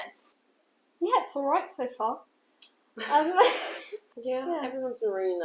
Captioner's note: laughter